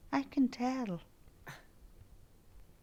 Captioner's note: Draco scoffs